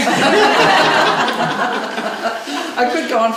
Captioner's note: laughing